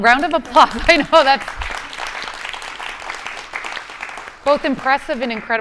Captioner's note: audience applauding